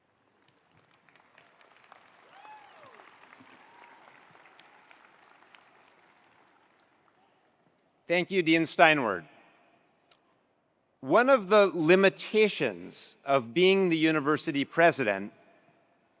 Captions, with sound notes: (attendees applauding) (attendees cheering) - Thank you, Dean Steinwert. One of the limitations of being the university president